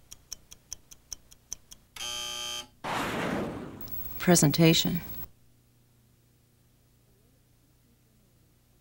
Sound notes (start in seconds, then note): 2.0 buzzer